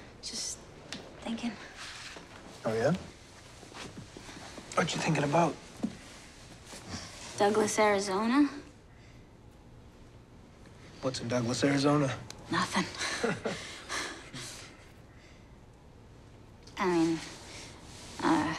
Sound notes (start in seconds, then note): 12.8 laughs; 12.9 chuckles